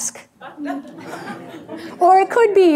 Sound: audience laughing

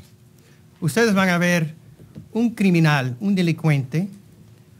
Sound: speaking in Spanish

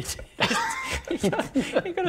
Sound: breathe

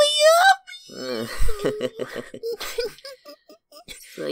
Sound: chuckles lightly

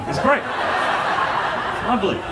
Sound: audience laughing

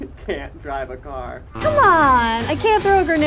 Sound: negative buzzer

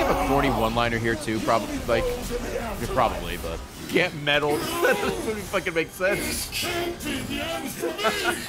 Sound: laughs

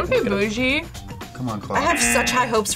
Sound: buzzer rings

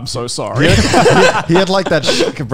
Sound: men laughing

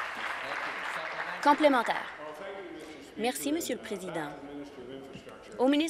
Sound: applause

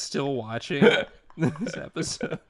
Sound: laughter

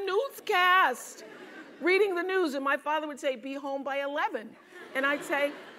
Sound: laugh

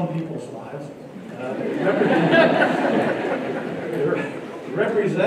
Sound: laughter

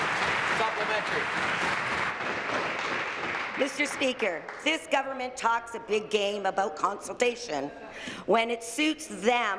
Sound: some Applause

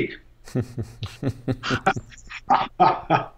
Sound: laughing

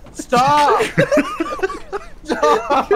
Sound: laughter

